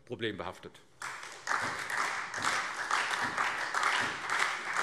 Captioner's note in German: Beifall SPD